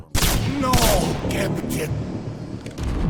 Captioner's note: ptow-ptow